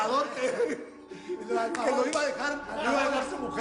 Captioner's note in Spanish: Risas